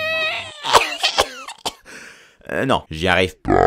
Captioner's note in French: Tousse x3